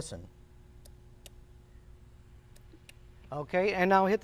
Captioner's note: clicking